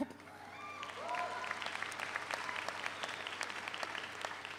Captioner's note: audience applauds